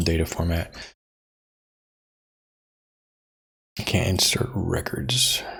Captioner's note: blank Audio